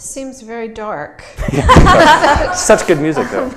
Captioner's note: laughter